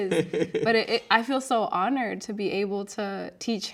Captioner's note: laughing